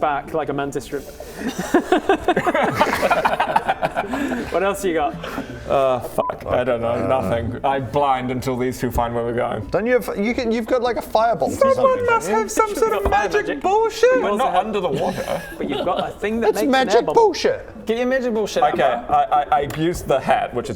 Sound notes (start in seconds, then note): 1.3 dumbest-thing-I've-seen-today laughter